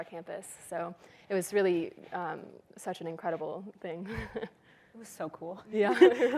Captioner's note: laughs